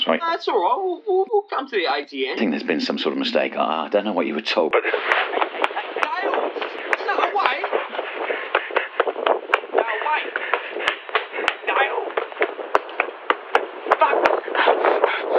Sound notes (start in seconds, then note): 13.3 footsteps thumping